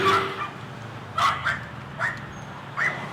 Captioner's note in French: aboiement de chien